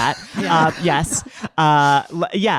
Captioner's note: audience laughing